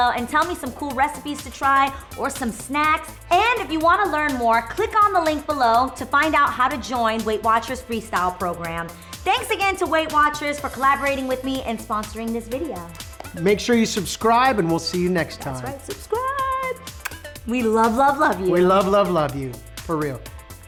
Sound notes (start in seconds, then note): 16.8 blows kiss